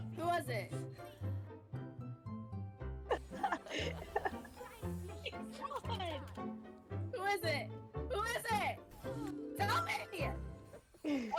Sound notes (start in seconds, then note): 3.1 laughing; 5.2 someone was laughing here idk who